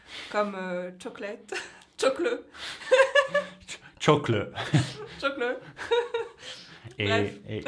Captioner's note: attempts to pronounce it with a British accent